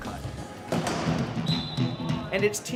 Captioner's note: whistle